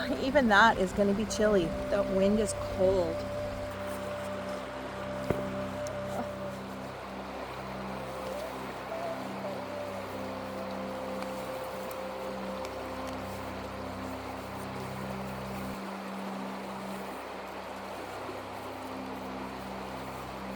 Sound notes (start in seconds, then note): 5.3 water sounds